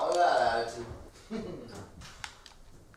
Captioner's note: laughs